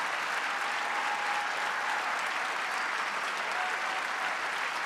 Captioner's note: audience continues cheering